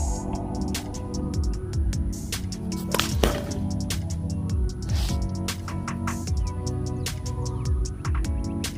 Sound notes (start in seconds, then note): 3.0 loud thud